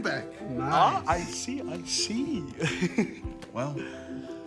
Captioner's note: chuckles